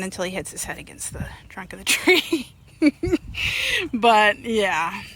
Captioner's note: laughs